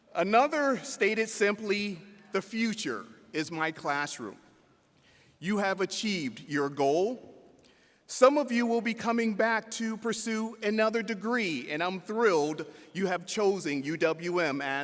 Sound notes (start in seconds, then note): none